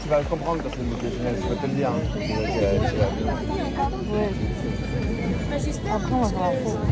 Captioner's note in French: La foule acclame; Murmures de la foule